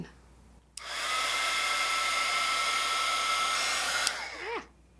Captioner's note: heat gun noise